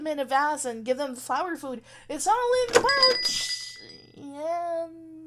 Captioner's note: door opens, jingle goes, then door closes